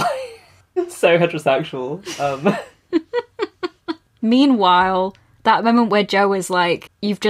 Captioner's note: laughs